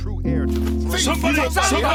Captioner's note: flick